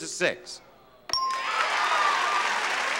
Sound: bell dinging; audience applauding

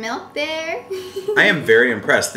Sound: laughs

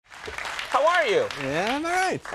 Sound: applause

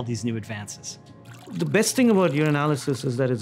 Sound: liquid pouring

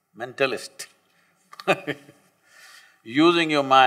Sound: laughs

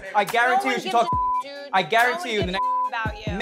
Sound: beep

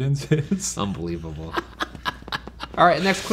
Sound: laughing

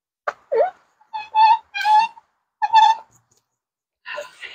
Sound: squeaking wheels

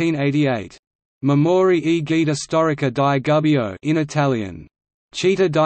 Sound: in Italian; in Italian

